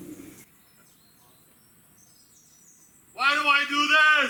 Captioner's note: birds chirping